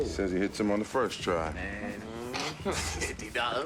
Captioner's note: groans